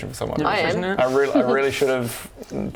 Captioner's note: smug laughter